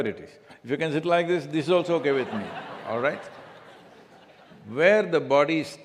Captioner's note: laughter